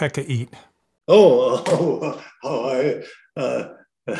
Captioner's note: laughs